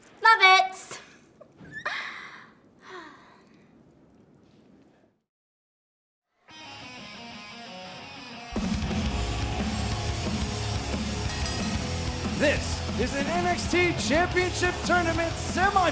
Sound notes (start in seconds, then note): 11.0 bell ringing